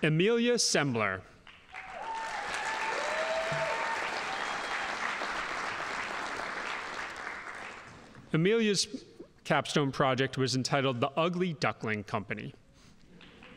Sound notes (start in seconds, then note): 1.5 audience applauding